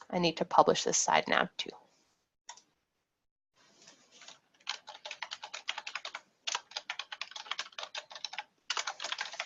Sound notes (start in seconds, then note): 4.5 keyboard keys clacking